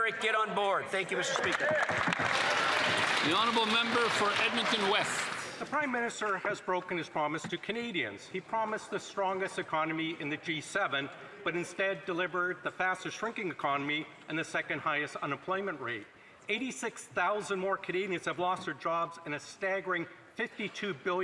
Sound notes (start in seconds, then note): 5.6 applause